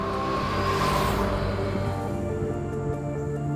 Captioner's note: tires screeching; upbeat music